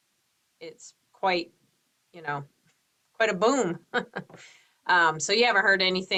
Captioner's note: laughs